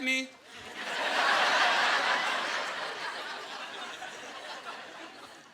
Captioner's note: laughing